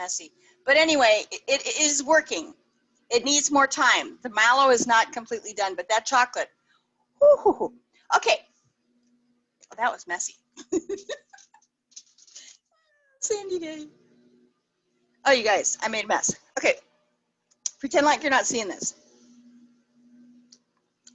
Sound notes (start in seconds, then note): 10.6 laughs